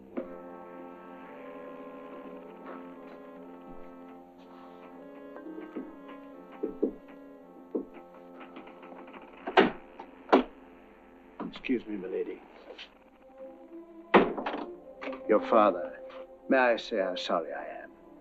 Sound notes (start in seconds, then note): 0.1 somber music; 6.6 knocking on door